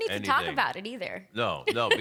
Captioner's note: laughing